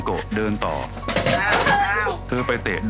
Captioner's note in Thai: เสียงเตะหม้อ